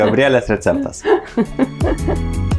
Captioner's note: laughs in Lithuanian